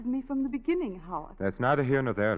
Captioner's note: none